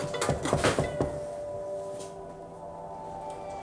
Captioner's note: Llama a la puerta; knocking on door